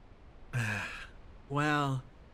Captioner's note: Etete Sigh